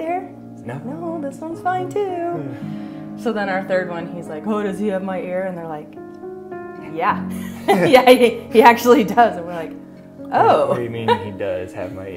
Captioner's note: laughter